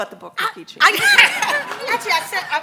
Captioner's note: congregation laughs